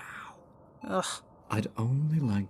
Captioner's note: scoff